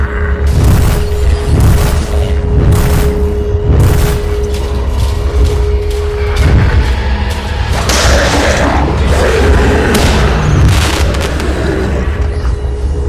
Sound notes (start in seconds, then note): 0.2 bam; 7.9 roars with pain